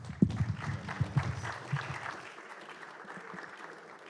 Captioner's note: applause